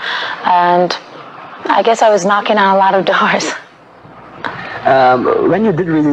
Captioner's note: laughing